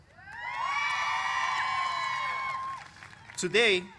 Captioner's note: cheers